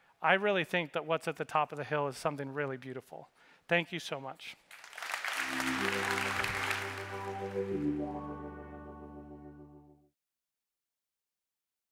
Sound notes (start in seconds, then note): 4.7 audience applauding; 5.4 bright music